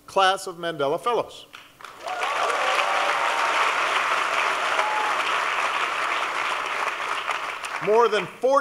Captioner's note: applause